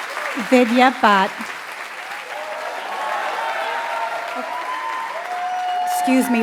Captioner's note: applause